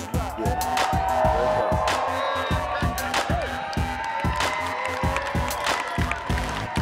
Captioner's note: attendees applauding and cheering